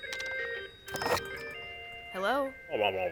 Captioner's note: receiver clicks